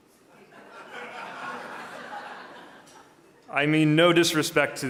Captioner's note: audience laughing